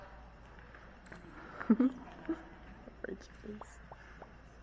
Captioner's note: giggling